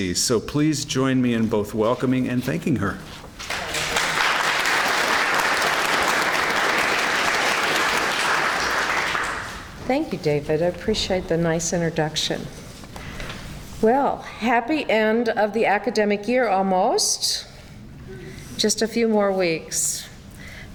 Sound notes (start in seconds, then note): 3.4 clapping